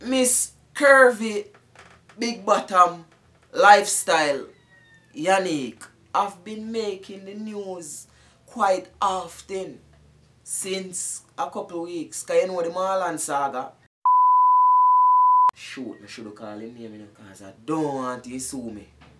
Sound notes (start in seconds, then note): 14.0 beeps